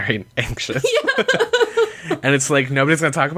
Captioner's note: laughs